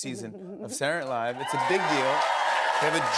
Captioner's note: cheers and applause